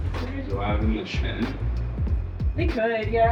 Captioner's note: indistinct chatter